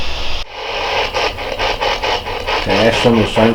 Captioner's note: static pulsing